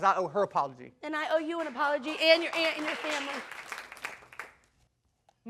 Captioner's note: audience applauding